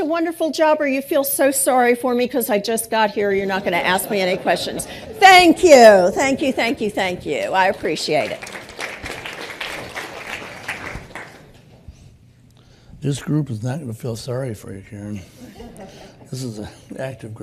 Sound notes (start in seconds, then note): 5.3 laughter; 9.3 applause